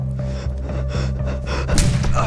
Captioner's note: Andrea gasping; gun bangs